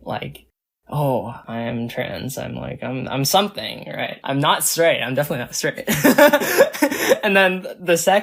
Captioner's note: laughs